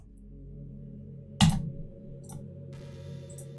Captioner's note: atomic bomb click